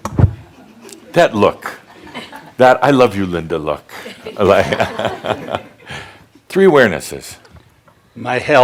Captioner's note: laughter